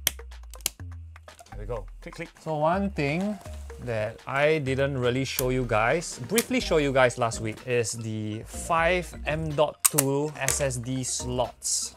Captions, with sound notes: There we go, *click click* So one thing that I didn’t really show you guys Briefly showed you guys last week Is the 5 M.2 SSD slots